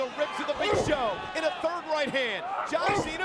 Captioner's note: blow thudding